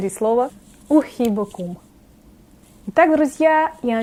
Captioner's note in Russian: говорю на арабском